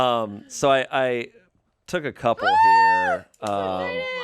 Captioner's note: squeals